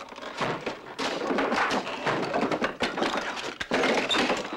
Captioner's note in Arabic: كسر الخشب